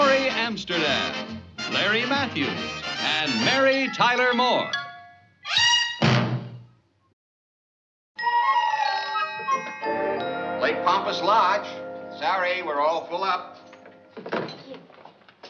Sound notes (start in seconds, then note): 8.2 phone ringing